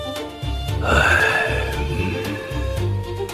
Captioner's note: sigh